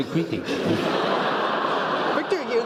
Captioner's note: laugh